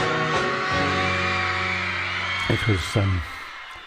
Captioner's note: crowd cheering